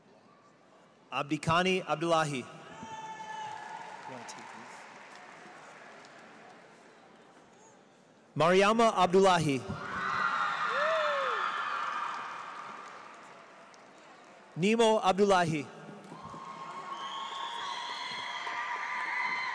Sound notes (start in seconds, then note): 9.7 cheers; 9.9 audience applauds; 16.1 audience cheers